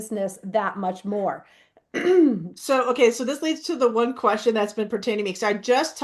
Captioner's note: clears throat